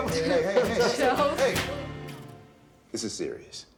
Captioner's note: laughs